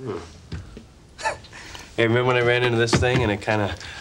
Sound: chuckles

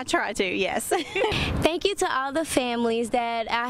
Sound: laughs

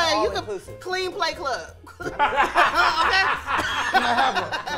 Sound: laughing

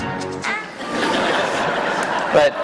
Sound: laughter

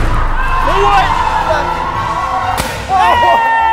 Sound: cheering

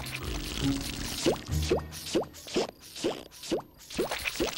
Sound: popping

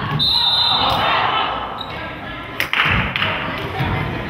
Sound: whistle blows

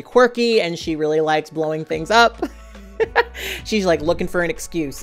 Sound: laughing

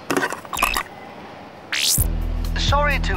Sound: compowder ringing

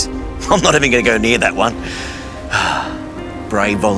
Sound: laughing

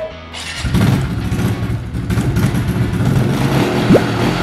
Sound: engine revs

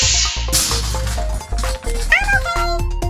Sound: crash

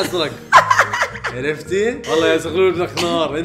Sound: laughs

